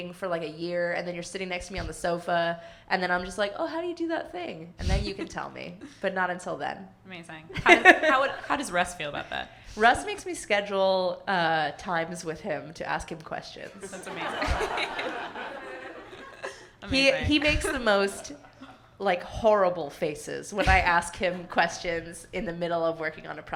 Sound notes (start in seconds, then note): 4.8 laughs; 7.5 laughing; 13.8 everyone laughing